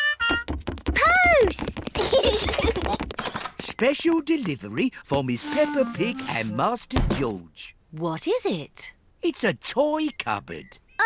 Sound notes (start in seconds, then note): 1.9 both giggle